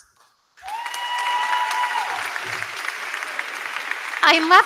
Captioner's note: crowd cheering; crowd clapping